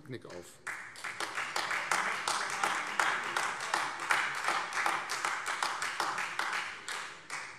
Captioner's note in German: Beifall Freie Demokraten